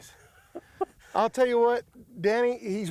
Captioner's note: giggles